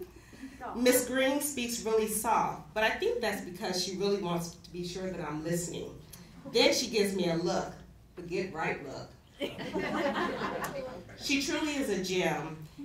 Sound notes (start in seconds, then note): 9.4 laughter